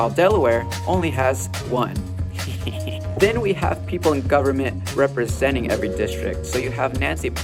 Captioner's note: maniacal laugh